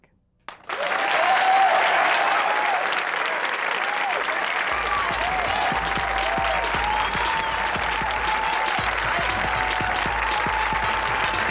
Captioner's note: audience hoots and applauds